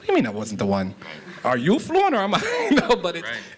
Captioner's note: chuckles